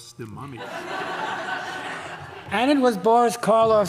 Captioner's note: audience laughing